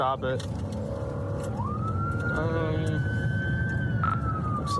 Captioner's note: siren wailing